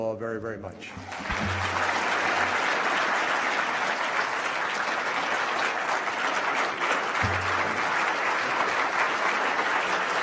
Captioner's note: applause